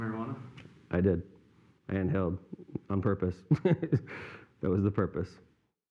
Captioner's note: laugh